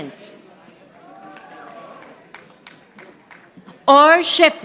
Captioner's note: audience applauding